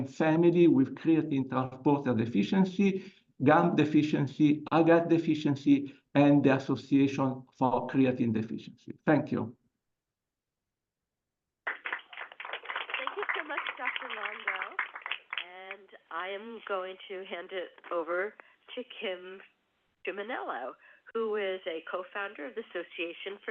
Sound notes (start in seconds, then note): 11.6 applause